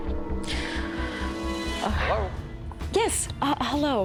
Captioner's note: on phone